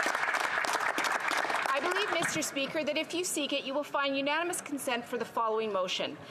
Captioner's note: some Applause